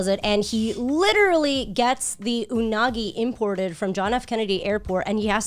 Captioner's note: none